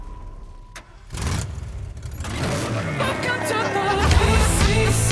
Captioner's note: car engine revs